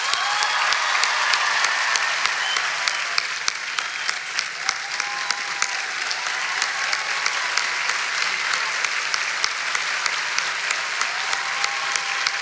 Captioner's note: cheering and applause